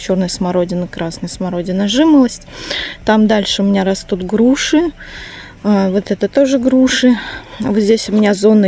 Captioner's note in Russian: фыркает